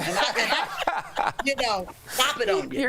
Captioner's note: laughter